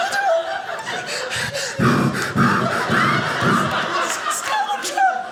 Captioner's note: breathing heavily